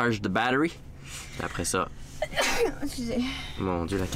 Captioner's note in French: éternue